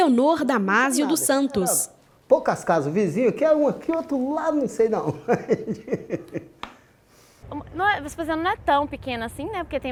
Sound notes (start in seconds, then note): 5.1 laughs